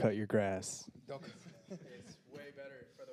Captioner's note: panelists laughing